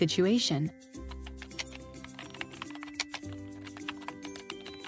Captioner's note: keyboard typing